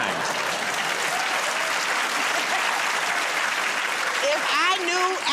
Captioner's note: cheers and applause